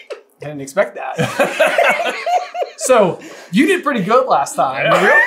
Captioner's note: laughter